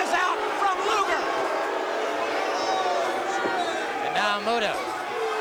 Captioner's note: crowd cheering